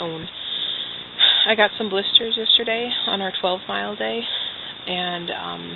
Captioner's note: sighs